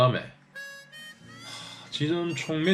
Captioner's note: sigh